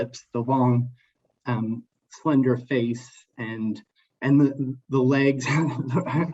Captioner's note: laughs